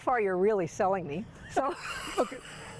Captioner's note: laughs